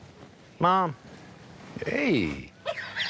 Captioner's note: laughs